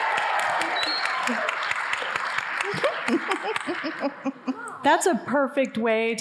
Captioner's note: audience cheering; audience applauding